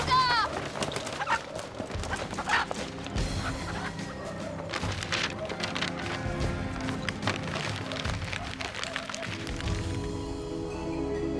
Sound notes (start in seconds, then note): 0.1 chickens squawking; 4.8 paper crumples